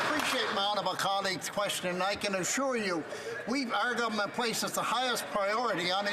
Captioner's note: applause